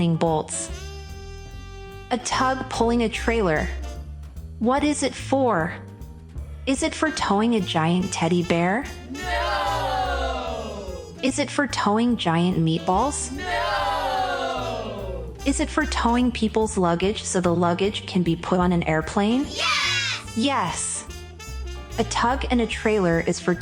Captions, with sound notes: bolts A Tug pulling a trailer What is it for? Is it for towing a Gian Teddy Bear? [group of children shout “Nooooo”] Is it for towing giant meatballs? [group of children shout “Nooooo”] Is it for towing peoples luggage So the luggage can be put on an airplane? [group of children shout “Yes”] Yes, A Tug and a trailer is for